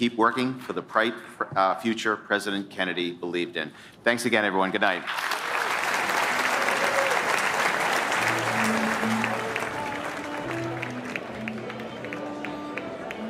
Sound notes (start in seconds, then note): 5.5 applause